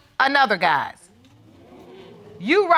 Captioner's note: audience gasps